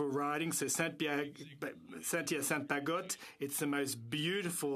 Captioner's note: speaking French